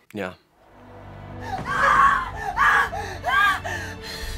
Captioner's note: screams